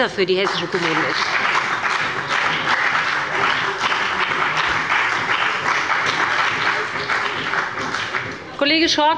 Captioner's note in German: Beifall bei dem BÜNDNIS 90/DIE GRÜNEN und der CDU